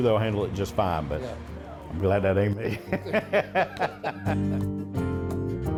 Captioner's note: laughs